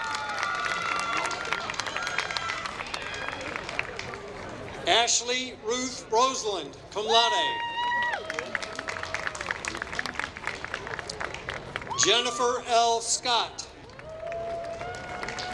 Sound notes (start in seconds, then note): 7.8 applause; 13.7 applause